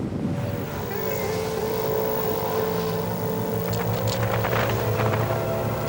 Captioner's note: lifeboat engine whirring; water splashing